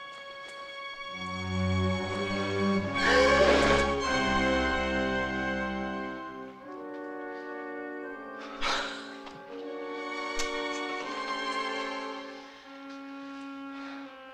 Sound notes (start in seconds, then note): 3.3 Amanda gasps